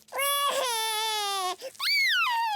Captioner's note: cries